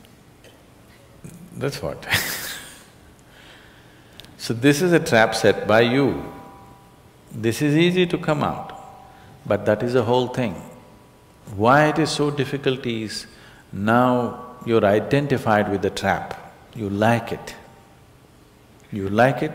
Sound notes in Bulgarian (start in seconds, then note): 2.0 смях